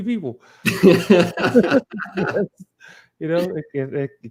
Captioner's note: laughs